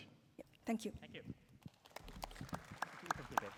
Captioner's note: applause